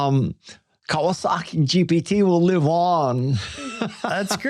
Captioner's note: chuckles